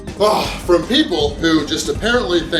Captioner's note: grunts